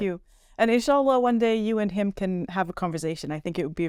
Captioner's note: speaking Arabic